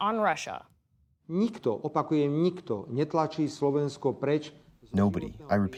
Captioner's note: through translator